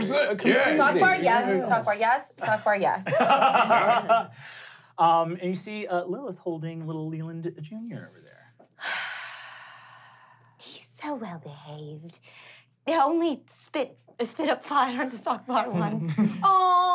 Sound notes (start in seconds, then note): 3.0 laughing; 9.2 sighs